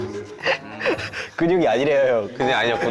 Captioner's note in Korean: 비웃음